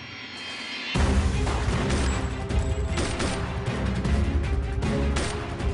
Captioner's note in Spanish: Disparos